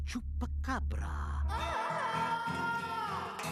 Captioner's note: wailing